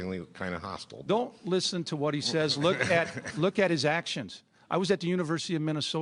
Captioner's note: AF laughs